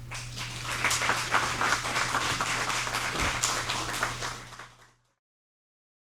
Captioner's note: audience applauding